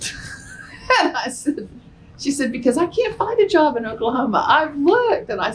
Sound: laughter

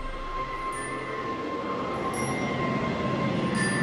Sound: wind howling

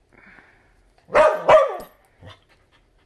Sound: barking

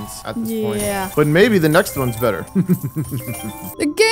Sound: laughs

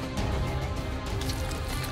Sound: squishing

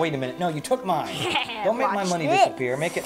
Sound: laughing

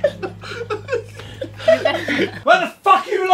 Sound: group chuckling

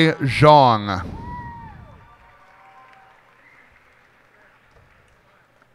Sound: cheers and applause

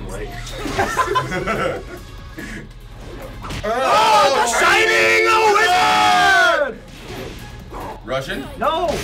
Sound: laugh

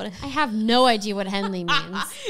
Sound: laughs

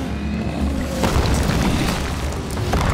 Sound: crashing

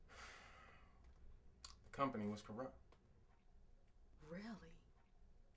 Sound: sighs

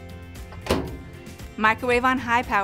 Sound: microwave door shutting

